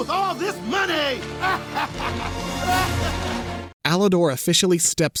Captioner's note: cackling